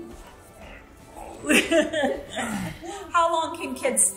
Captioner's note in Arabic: يضحك